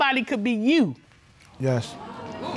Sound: audience exclaiming

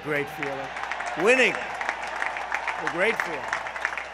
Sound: applause

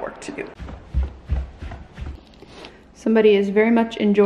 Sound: sound of footsteps on stairs

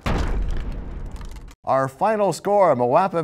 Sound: crashing sound

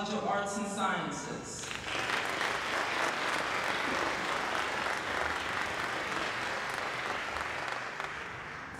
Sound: applause

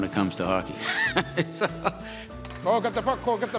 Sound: chuckling

